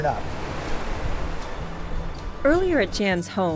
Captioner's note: waves crashing